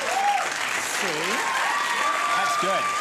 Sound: applause

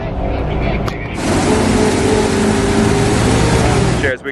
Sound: engine revving

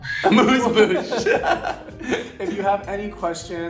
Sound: laughs

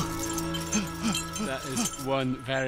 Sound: panting

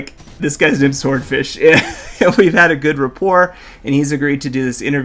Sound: chuckles

